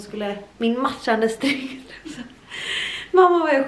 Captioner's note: laughter